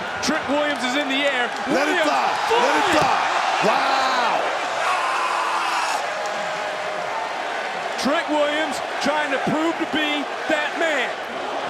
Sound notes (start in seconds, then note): 4.7 Trick screams; 11.4 crowd chants "Whoop that Trick"